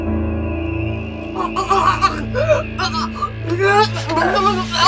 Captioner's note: suspenseful music; Betsy choking